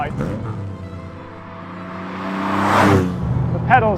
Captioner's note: car engine roaring